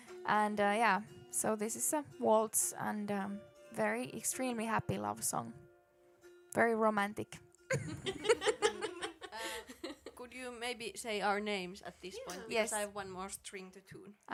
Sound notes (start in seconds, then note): 7.7 laughter